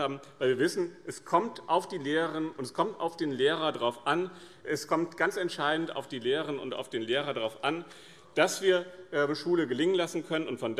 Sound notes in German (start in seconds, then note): none